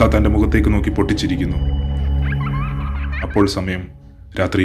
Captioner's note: distant laughter